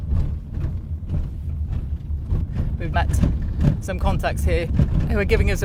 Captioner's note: car rumbling